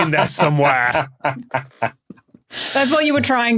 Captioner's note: cackles